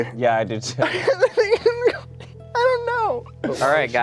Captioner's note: laughing